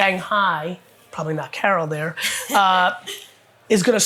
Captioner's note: laughs